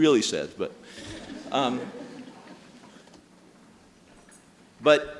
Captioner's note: audience laughing